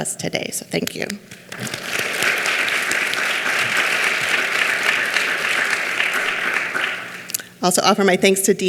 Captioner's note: clapping